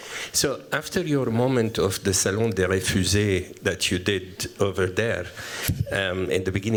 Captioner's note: french